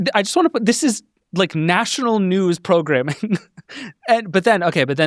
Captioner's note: laughs